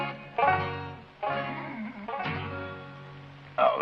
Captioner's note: snoring